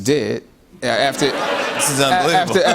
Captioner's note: laughter